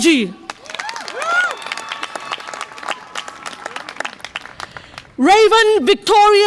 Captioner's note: audience applause and cheer